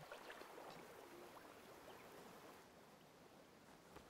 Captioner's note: water rushing